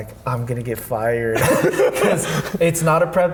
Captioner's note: laughing